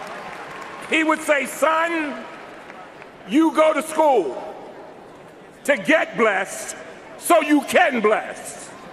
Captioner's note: cheers and applause